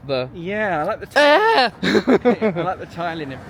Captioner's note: yells and laughs